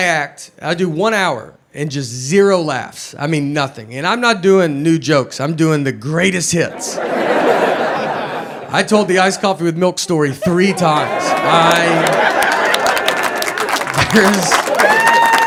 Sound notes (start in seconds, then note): 6.6 audience laughs; 10.8 audience applauds and cheers